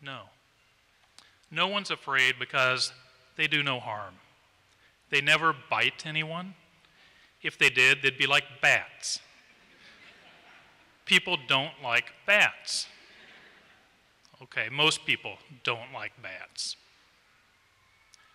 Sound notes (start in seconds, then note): 9.4 laughter